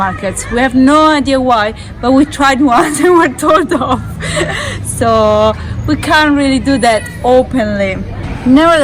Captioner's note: laughing